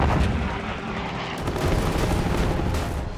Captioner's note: gunfire